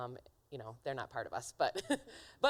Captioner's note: laughing